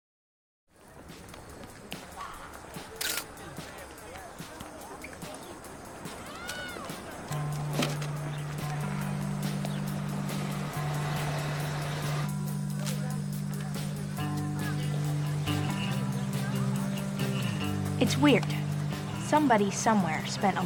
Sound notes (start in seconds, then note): 0.9 upbeat music; 2.9 camera shutter sound